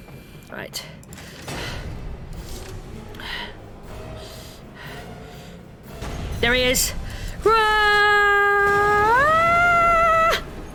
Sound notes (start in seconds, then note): 3.1 breathing heavily